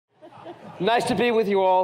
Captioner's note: laughter